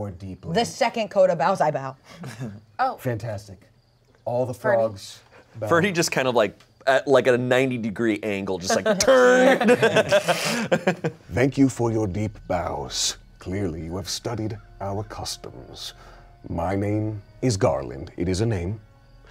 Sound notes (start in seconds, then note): 8.8 everyone laughs